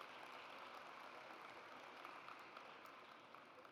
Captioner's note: audience applauds